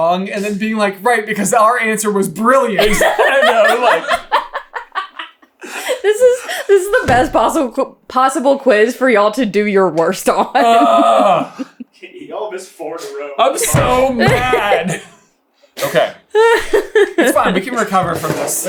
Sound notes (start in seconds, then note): 4.7 dying laughing